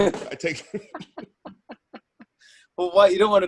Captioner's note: both laugh